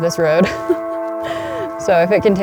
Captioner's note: laughs